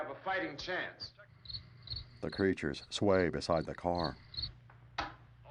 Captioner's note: crickets chirping